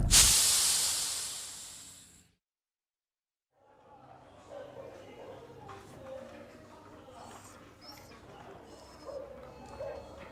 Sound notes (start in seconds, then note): 0.0 sizzling; 3.7 people chattering; 4.6 dogs barking